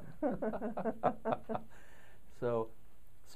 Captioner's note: laughter